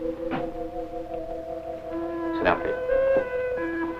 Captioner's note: whistles